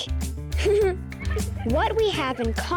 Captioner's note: giggling